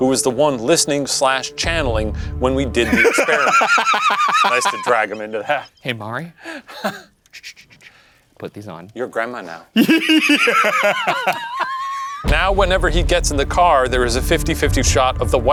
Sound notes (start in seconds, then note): 2.8 cackling; 5.6 laughing; 9.7 laughing